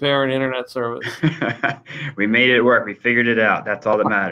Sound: laughs

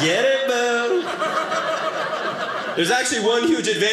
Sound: audience laughing

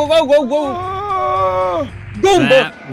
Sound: groaning

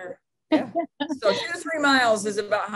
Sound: laughing

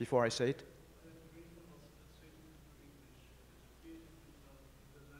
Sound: speaking faintly

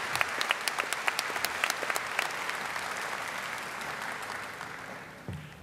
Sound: audience applauding

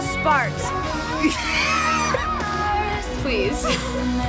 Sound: laughing

